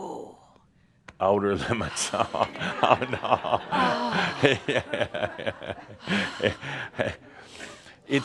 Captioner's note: laughter